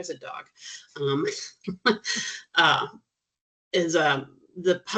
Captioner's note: chuckling